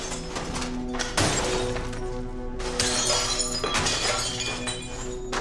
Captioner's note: objects shattering